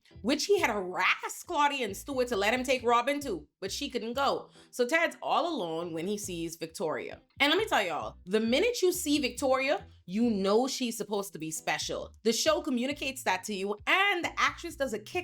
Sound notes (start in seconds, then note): none